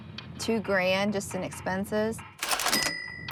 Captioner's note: cash register sound